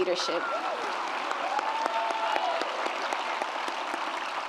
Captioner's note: audience applauds